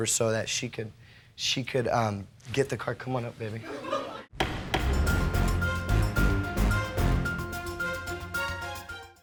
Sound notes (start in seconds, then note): 3.6 audience laughs; 4.4 gavel bangs; 4.4 dramatic music